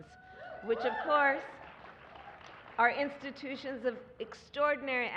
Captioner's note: applause